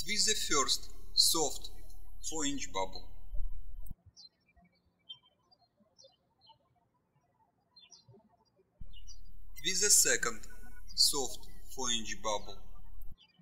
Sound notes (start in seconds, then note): 3.7 birds chirping